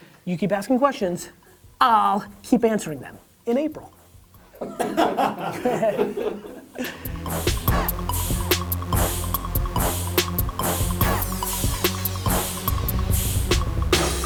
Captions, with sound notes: You keep asking questions, I'll keep answering them. In April. (all laugh) (hip hop music)